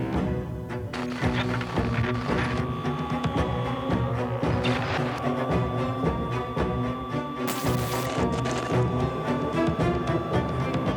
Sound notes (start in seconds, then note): 0.9 electricity crackling; 1.1 suspenseful music continues